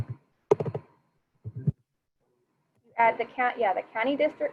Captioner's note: keyboard tapping